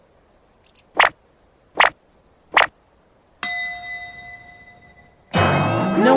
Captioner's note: sounds of thought bubbles forming